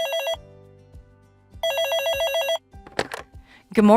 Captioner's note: phone ringing; phone ringing